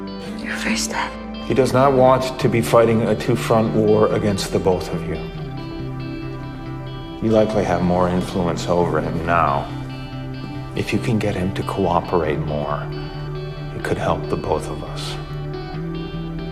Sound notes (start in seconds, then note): 1.7 voiceover